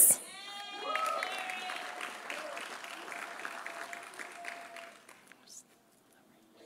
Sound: audience cheering; audience applauding

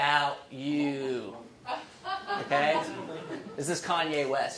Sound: laughing

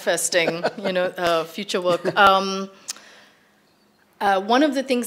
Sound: laughs

